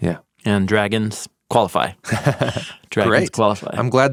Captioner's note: chuckles